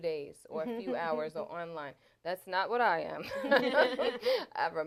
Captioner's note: laughter